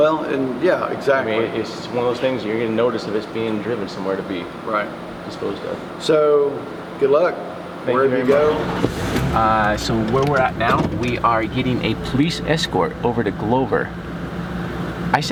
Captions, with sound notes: - Well, and yeah exactly. - I mean it's one of those things that you're gonna notice that it's being driven somewhere to be- - Right. - Disposed of. - So, good luck wherever you go. - Thank you very much. (engine revving) Ah, so where we're at now, we are getting a police escort over to Glover.